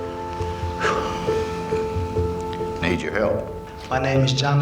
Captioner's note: exhales